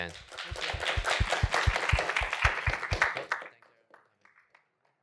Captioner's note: applause